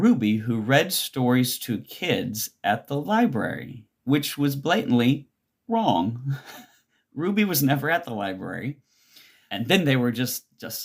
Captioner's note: laughs